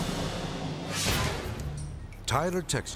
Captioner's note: air whooshes